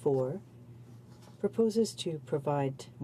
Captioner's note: speaking French